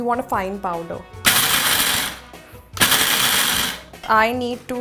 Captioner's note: electric machine grinding